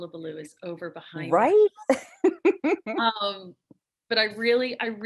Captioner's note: chuckles